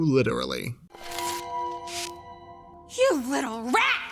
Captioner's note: mouse squeaks